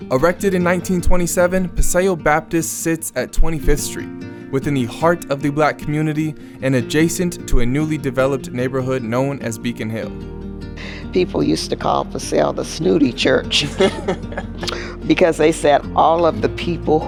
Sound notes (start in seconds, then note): 13.5 laughs